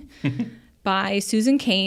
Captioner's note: chuckles